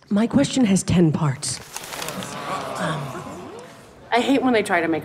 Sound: crowd groans

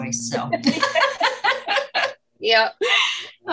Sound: laughs

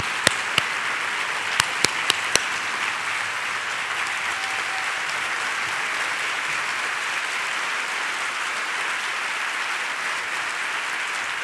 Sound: applause

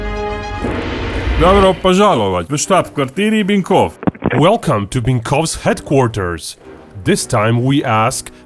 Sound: russian

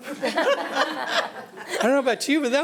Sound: audience laughing

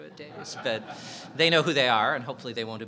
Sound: audience laughing

